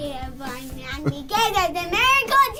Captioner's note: laughs